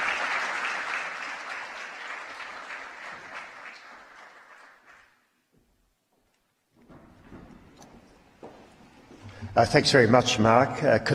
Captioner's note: applause